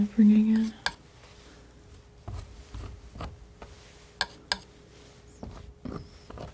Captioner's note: scratching